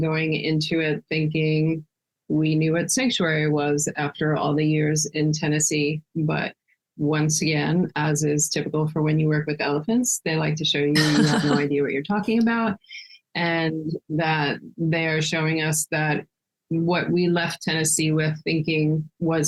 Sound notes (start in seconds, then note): 10.9 laughing